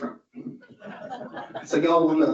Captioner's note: audience laughs